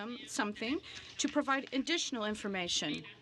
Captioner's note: speaking French